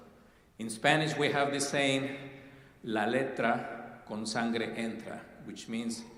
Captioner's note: speaking spanish